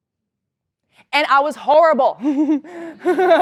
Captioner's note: laugh